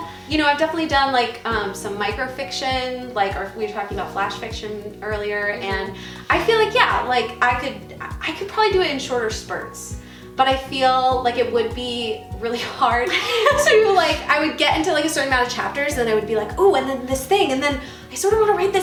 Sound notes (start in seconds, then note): 13.1 laughing